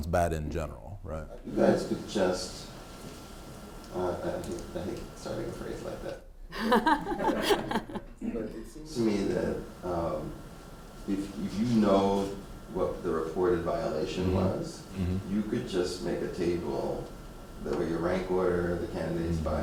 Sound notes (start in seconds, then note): 6.5 all laughing